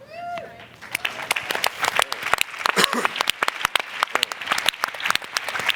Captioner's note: applause